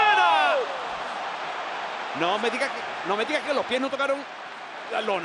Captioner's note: applause